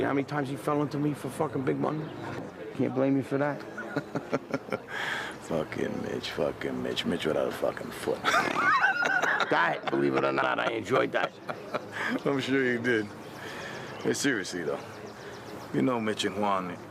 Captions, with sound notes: You know how many times he fell into me for fuckin' big money? Can't blame me for that. (chuckles) - Fuckin' Mitch, fuckin' Mitch. Mitch without a fuckin' foot. (laughing) - That, believe it or not, I enjoyed that. - I'm sure you did. Seriously, though, you know Mitch and Juan,